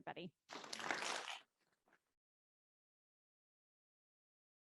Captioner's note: audience applauds